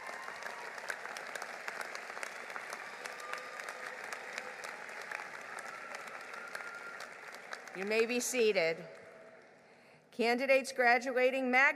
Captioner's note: applause